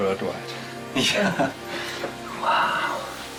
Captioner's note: laughing